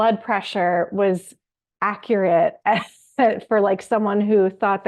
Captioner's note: laughs